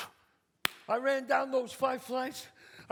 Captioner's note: claps